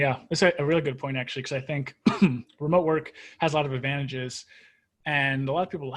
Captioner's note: coughs